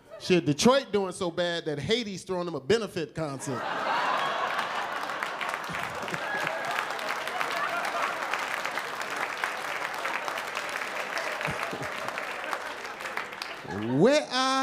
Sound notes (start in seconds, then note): 4.0 applause